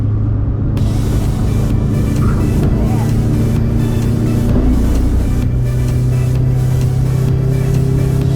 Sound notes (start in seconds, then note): 0.8 upbeat music; 5.0 engine revs